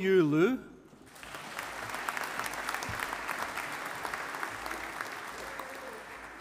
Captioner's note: audience applauding